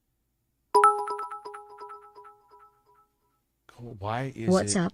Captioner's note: ding